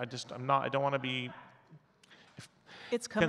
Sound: faintly speaking

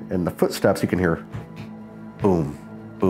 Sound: rhythmic pounding

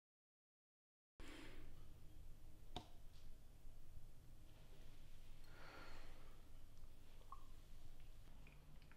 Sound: none

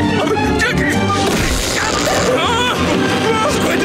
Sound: electricity zapping; screaming

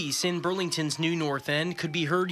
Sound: nats: man getting away on bike -- cops yelling

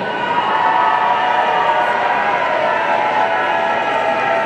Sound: audience cheering

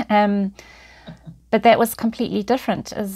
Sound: chuckles

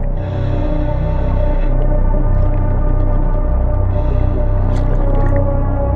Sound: chilling music continuing; oxygen tank whooshing

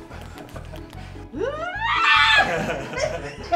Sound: screaming; laughing

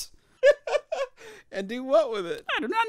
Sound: laughs

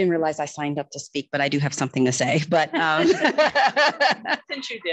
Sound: laughing

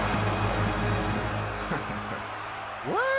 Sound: crowd gasping; chuckling

